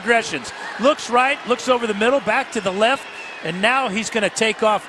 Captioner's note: cheers and applause